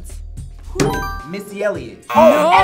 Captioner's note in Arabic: يرن الجرس